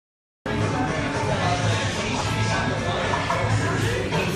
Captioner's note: coffee shop noise